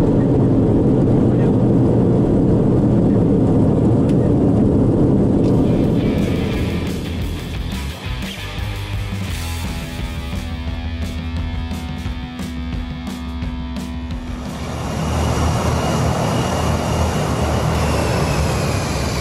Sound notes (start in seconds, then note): 6.2 upbeat music; 14.5 plane engine roaring